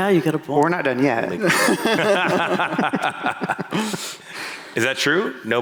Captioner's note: laughter